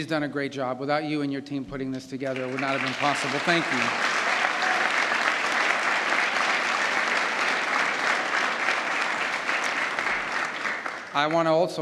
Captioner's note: applause